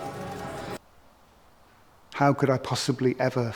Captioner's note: abrupt silence